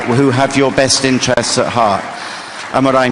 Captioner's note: applause